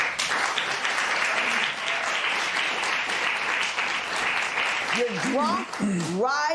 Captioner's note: applause